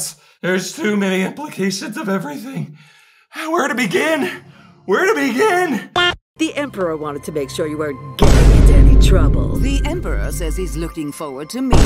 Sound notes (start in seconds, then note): 8.2 boom; 11.7 boom